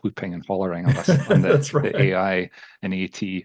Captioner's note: laughs